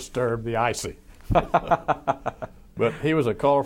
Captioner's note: laughs